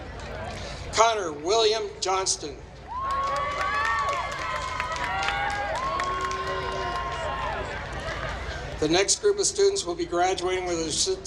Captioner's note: applause